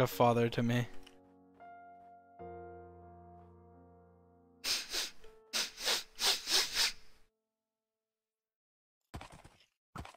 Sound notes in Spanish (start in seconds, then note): 4.7 sonido de sollozo